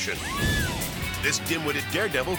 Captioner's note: person screams